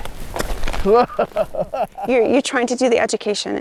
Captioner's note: laughs